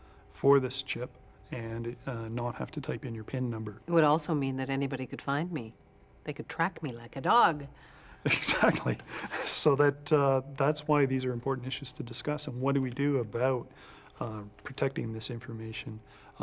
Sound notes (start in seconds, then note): 8.2 chuckles